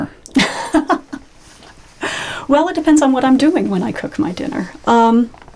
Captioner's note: laughing